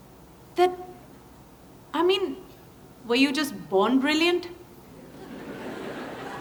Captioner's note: laughter